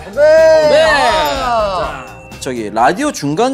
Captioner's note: cling~